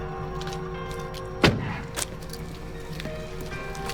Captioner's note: door closes, solidly; rapid footsteps, keys rattle